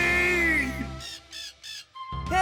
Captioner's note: cawing